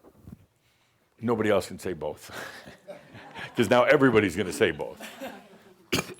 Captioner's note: chuckles